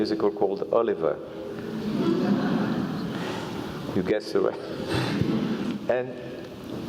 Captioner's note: laugh